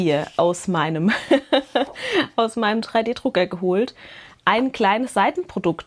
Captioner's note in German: Gelächter